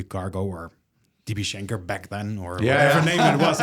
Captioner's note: laughs